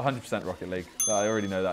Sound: ding

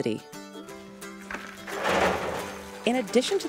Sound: rocks hitting metal

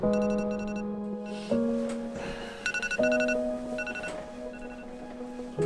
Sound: alarm ringing

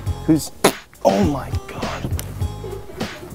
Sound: fart noise

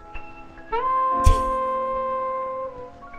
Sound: scoffs

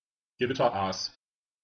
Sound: fast Pronunciation

